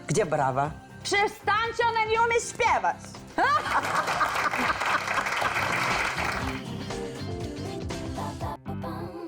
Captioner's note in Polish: Aplauz